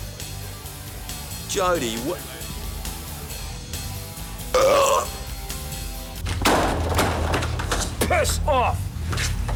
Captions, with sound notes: - Jodie, what- (man burps) (door clatters) Piss off!